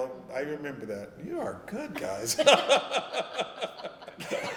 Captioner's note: laughter